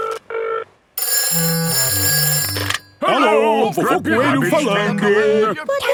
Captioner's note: phone ringing